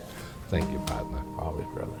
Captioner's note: laughs